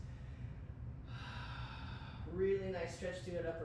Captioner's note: sighs